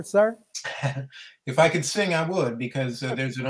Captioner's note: laughs